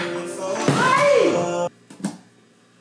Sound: object slams on ground

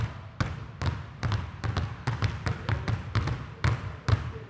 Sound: balls continue thudding

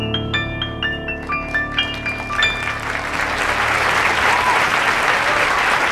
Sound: applauding and cheering

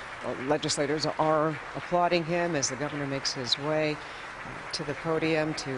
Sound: applause

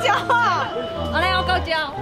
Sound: haha

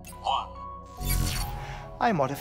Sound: electronic chirp

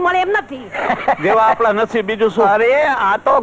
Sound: laughs

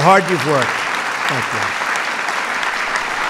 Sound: applause

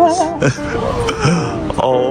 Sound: gasps

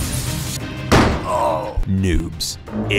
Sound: glass shattering; gunshot

